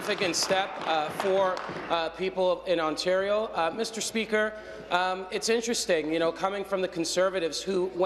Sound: applause

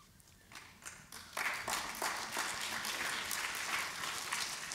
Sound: applause

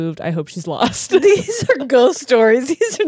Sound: laughs

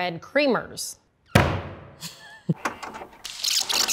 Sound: hammer banging; tape rewinding

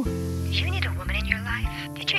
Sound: sexy female robo caller

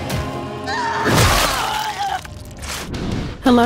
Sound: Dupli-Kate shouting

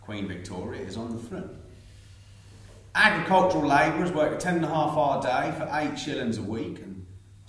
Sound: none

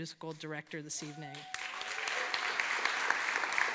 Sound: applause

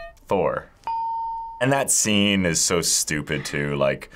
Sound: ding; hitting bell

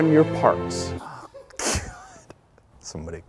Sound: laughing

